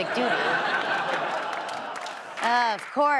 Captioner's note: audience laughs